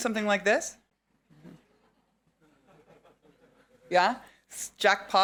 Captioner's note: audience laughing